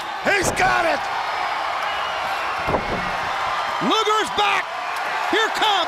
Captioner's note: crowd cheering